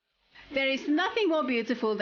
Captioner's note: narrating